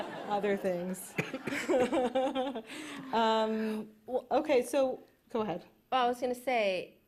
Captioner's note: laughs